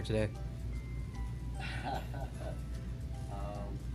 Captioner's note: laughter